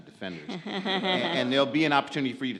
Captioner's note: audience laughs